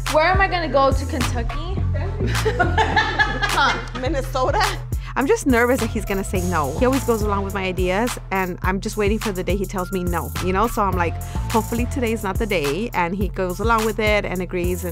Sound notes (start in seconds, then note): 2.2 laughs